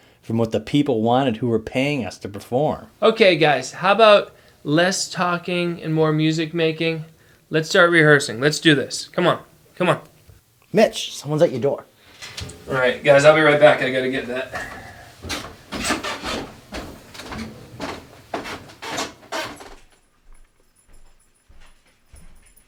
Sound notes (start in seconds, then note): 15.5 steps creaking; 19.7 keys jangling